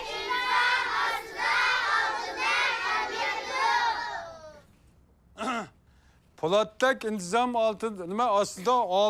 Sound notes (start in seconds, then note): 5.3 clears throat